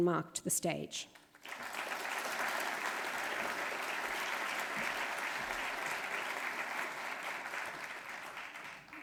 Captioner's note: applause